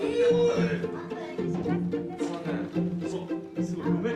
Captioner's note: foreign language